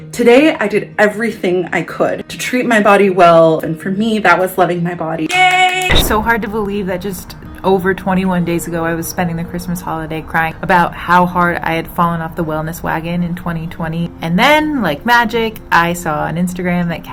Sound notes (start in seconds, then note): 5.3 claps and cheers